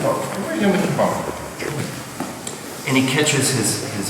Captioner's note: speaking in a foreign language